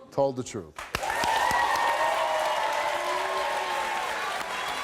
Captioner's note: audience claps and cheers